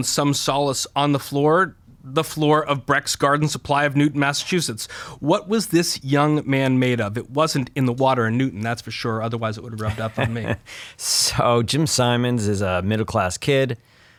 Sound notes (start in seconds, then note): 9.8 chuckles